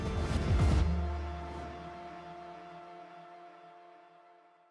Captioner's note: cheering